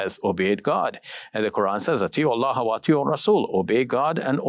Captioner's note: speaking in foreign language